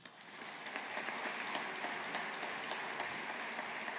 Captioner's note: audience applauding